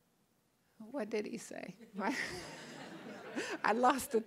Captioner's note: all laughing